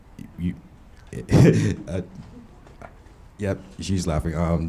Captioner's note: laughing